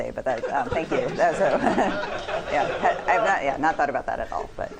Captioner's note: laughter